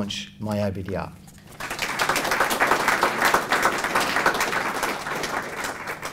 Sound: applause

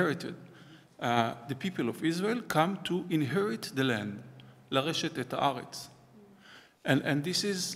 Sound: hebrew

